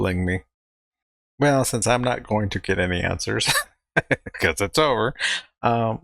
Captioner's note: chuckling